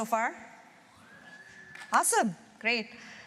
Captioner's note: cheers